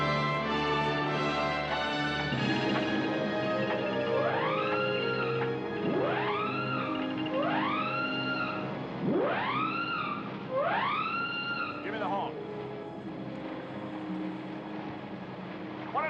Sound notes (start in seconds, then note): 0.7 siren Sounding; 4.6 siren Continues